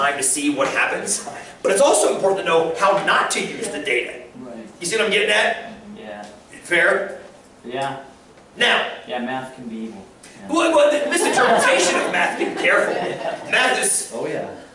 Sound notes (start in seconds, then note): 11.0 laughter